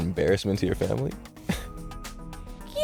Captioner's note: chuckles